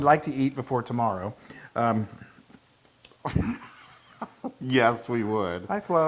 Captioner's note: laugh